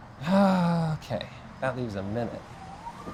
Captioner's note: heavy sigh